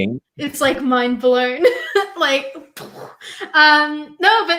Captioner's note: imitates explosion